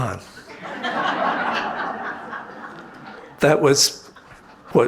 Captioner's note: audience laughing